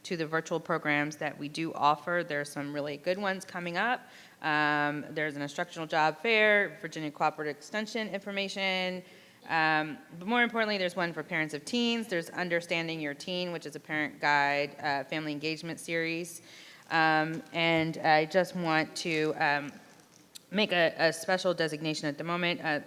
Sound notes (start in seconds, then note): none